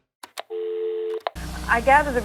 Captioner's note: click; dial tone